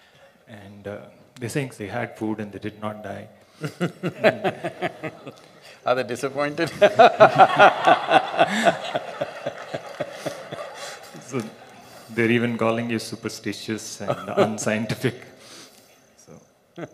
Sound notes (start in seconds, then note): 3.6 Sadhguru Laughs; 6.6 laughter; 10.9 笑聲; 14.0 Sadhguru Laughs